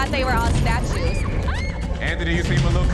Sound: shrieking

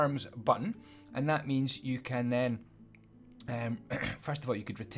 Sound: ahem

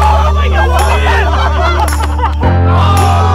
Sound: laughing; screaming

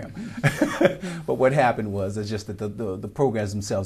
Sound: laughter

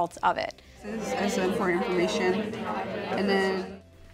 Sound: chatter

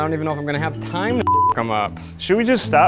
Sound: beep

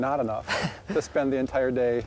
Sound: laughs

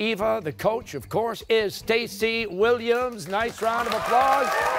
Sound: cheers and applause

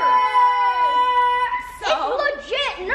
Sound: kids cheering

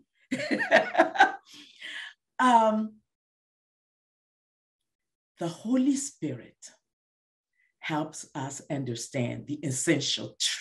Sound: laughs

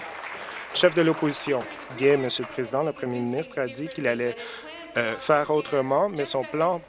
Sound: applause

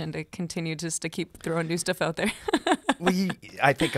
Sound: laughs

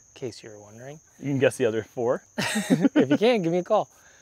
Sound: laughter

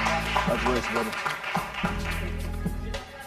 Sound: cheering

